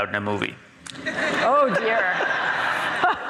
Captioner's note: audience laughs